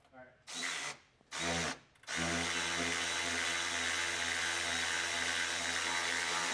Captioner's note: drilling